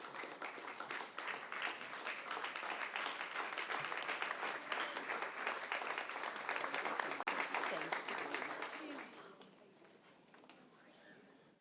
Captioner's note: applause